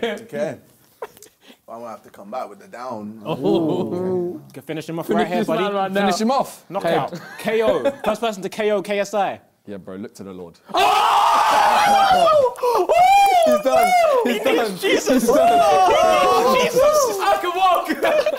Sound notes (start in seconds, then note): 10.6 all cheering